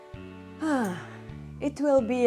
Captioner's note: sigh